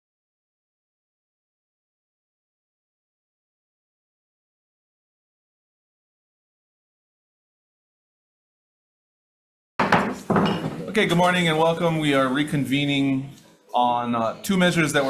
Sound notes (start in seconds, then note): 9.8 gavel bangs